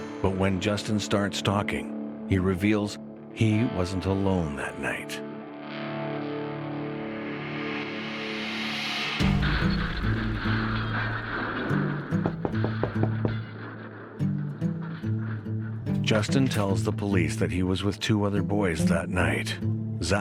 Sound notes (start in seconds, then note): 5.9 suspenseful music; 12.2 knocking at the door